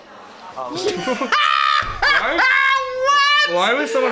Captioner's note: both laugh